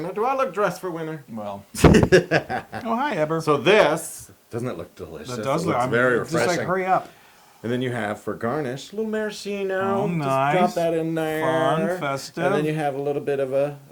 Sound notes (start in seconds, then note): 1.8 laugh